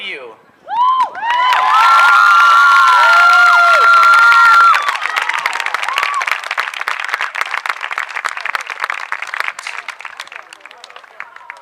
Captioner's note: cheering